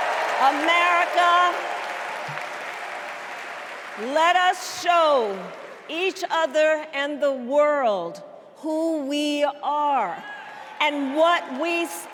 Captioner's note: cheers and applause